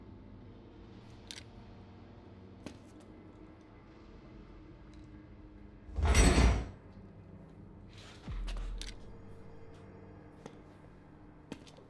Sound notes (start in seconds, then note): 0.3 gentle tense music; 5.9 metal clanking; 7.3 gentle tense music